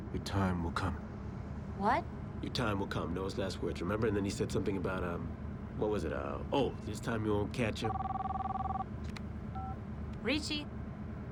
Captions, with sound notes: - "YOUR TIME WILL COME." - WHAT? "YOUR TIME WILL COME," NOAH'S LAST WORDS, REMEMBER? AND THEN HE SAID SOMETHING ABOUT... WHAT WAS IT? OH, "THIS TIME YOU WON'T CATCH HIM." ( phone rings ) RICCI?